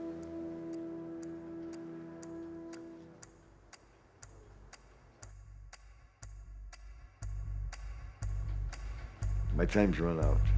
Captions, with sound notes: [clock ticking] [dramatic music] My time's run out.